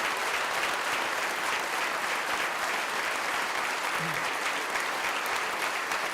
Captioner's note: clapping